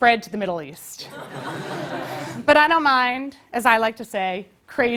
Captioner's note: laugh